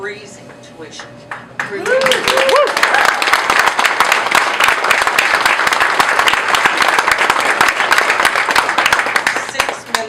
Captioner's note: applause